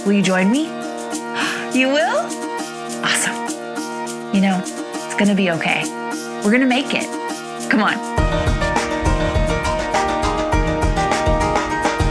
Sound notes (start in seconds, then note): 1.4 gasps softly; 8.6 bright music continues